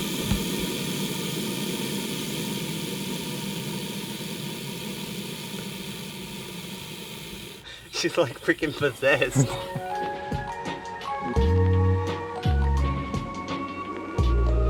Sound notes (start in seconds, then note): 7.7 laughs; 10.9 upbeat music